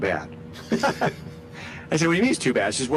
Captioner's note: both laughing